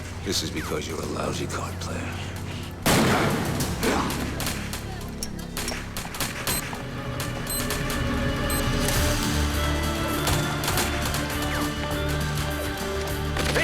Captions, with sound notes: This is because you're a lousy card player. (gun fires) (explosives beeping) (slow music) (guns firing)